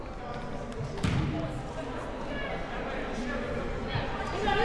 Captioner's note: ball pounding